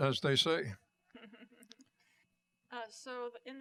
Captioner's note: laughter